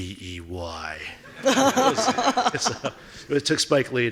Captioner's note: laughing